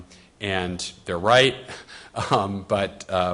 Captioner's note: laughs